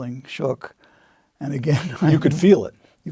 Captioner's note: laugh